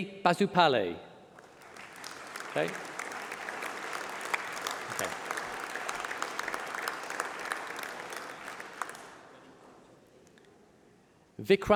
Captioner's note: applause